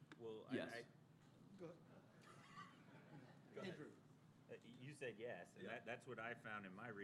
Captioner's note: laughter